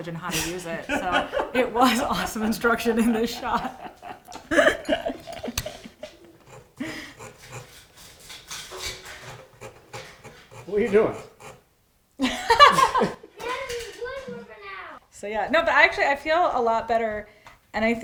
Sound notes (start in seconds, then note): 0.8 laughs; 4.8 laughs; 12.2 laughs